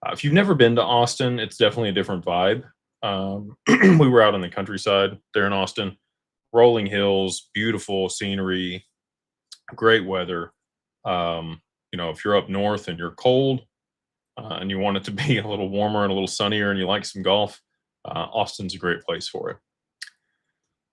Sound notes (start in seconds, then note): 3.5 clears throat